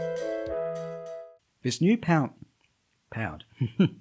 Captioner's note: chuckles